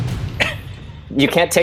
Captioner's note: chuckles